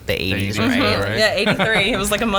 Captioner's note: laughs